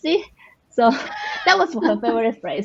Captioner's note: laughter